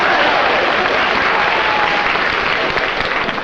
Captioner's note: applause